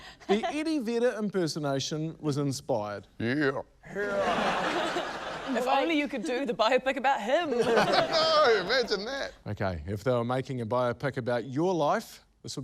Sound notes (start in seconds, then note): 4.0 laughter; 7.5 laughter